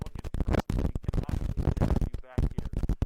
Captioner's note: microphone crackling